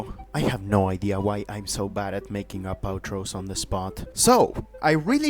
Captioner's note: whispering